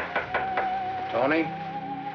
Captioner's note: knocking